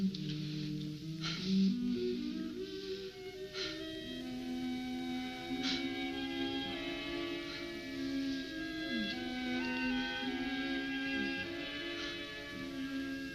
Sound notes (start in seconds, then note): 0.2 dramatic music; 3.8 panting